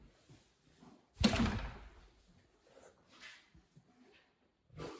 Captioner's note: door shuts